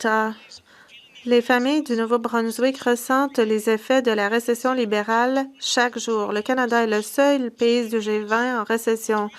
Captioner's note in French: voix de l'interprète